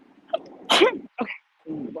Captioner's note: sneezes